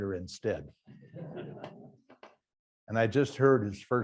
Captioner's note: students laugh faintly